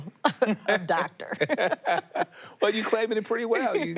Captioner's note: both laughing